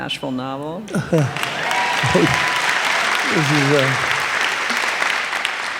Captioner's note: cheers and applause